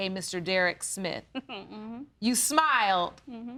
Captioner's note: chuckles